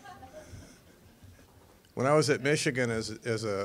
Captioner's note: audience laughing